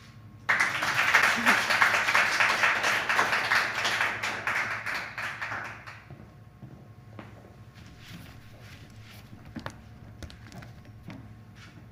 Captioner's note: applause